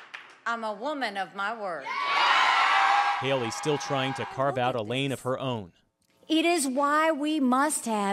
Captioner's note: cheering